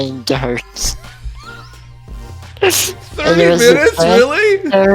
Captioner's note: laughing